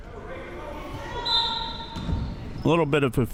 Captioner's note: whistle chirping